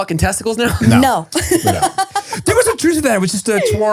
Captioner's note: laughs